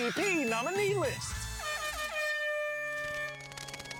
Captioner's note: air horns blare; spooky music